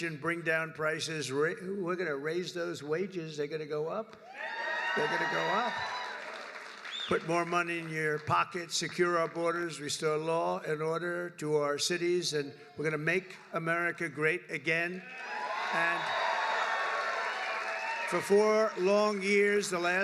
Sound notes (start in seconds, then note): 4.4 applause; 15.1 applause